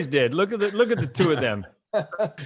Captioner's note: laughs